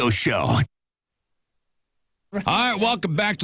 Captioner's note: blank Audio